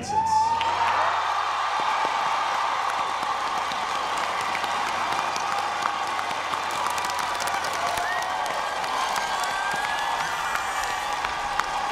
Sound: applause

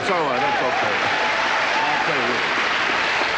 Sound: audience cheering

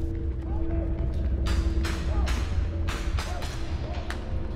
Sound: gunfire

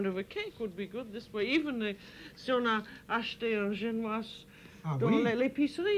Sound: speaking French

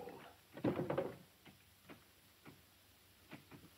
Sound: wood creaking

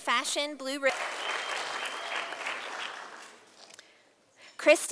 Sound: sound of applause from audience

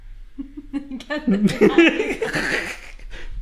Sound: laughing

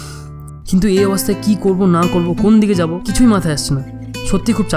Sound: sigh!

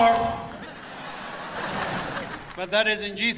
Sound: audience laughs

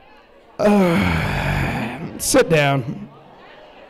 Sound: groans

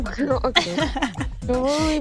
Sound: laughs

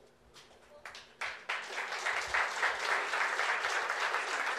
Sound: clapping

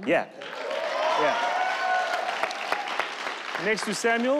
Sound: audience cheer

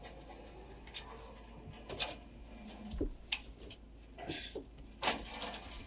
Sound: scaffolding rattling

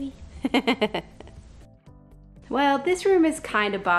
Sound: laughs

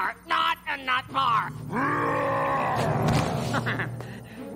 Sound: roaring

